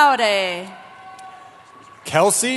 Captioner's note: cheering